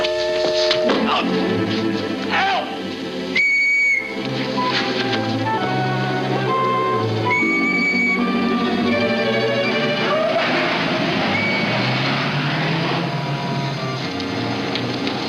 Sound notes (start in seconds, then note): 3.3 whistle blows; 7.9 whistle blows; 11.2 whistle blows